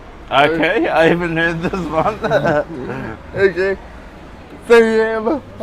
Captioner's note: laughs